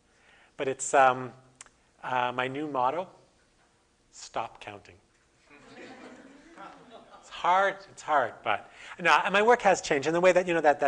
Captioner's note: audience: Laughter